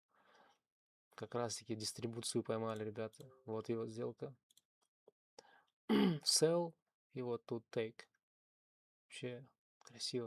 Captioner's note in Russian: откашливается